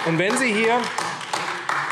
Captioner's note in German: Beifall AfD